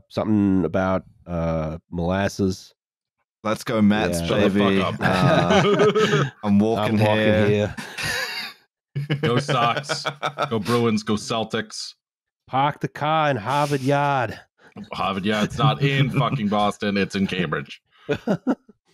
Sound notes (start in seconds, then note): 4.0 laughs; 4.2 laughter; 8.5 laughter; 11.5 laughter